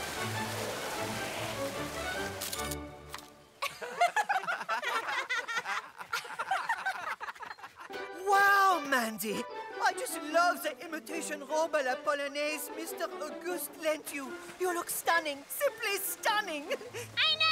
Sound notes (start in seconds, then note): 1.4 jeering laughter